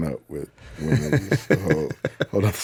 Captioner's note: Justin laughing